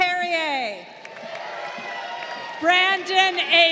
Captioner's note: crowd cheering